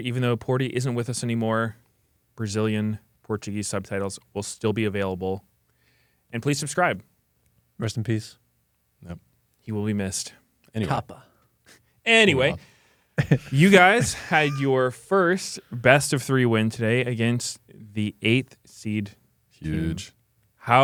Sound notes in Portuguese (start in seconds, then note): 13.2 risos